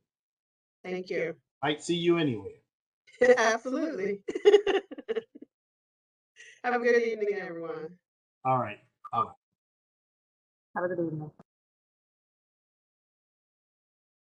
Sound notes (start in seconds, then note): 4.2 laughter